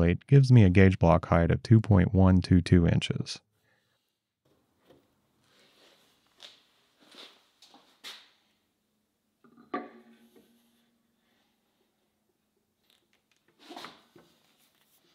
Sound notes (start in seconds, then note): 9.5 parts clanking